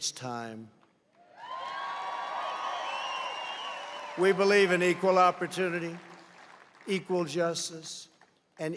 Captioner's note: applause